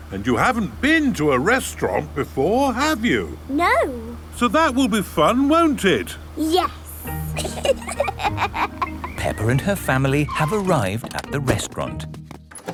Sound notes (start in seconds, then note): 7.3 both laughing